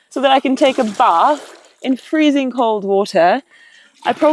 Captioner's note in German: none